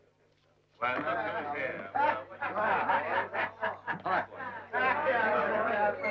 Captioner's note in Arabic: ثرثرة رعاة البقر